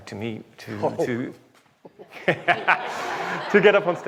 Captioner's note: everyone laughs